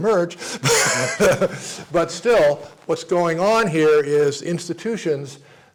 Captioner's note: laugh